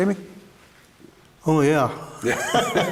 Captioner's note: both laugh